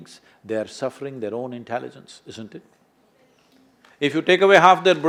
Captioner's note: applause